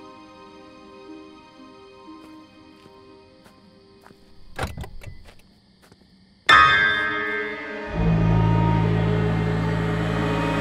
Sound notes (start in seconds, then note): 4.3 car unlocks; 7.1 suspenseful music